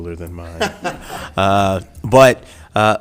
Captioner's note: laughing